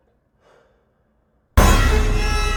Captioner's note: Triston sighs; quick scary bang